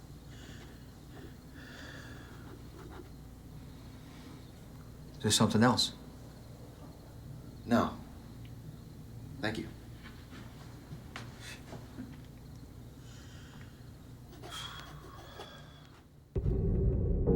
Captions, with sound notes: Is there something else? - No, thank you. (Mr. Vitelli sighing)